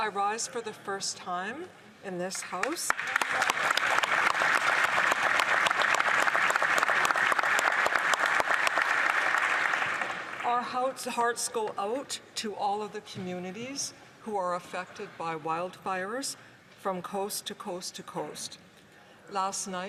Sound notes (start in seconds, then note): 7.4 applause